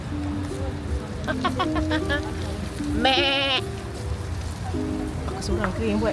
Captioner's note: laugh